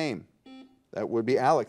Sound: buzzer dings

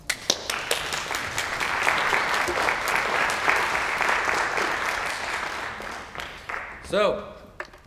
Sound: applause

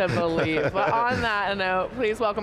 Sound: laughing

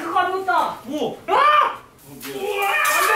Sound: screams

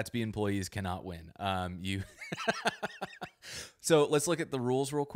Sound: laughs

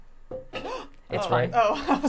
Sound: gasping

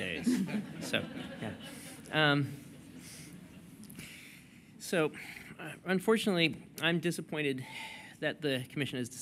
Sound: laughter

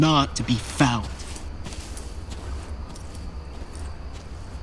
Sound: footsteps receding

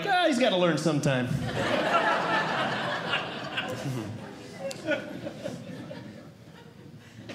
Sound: audience Laughing

